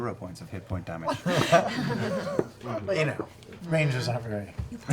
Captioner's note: laughter